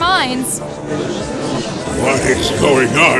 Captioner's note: gallery chattering